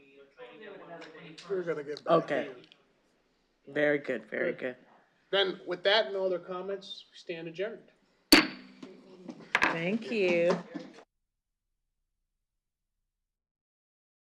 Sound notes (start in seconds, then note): 8.3 gavel bangs